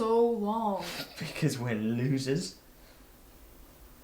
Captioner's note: laughing